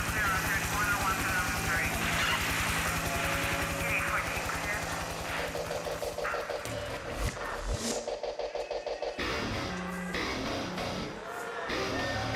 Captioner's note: crowd chatter